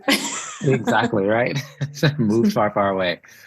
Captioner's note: laughs